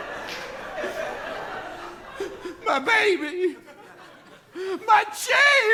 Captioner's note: laughter; crying